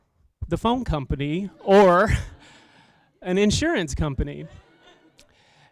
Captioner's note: laugther